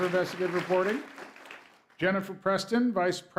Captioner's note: applause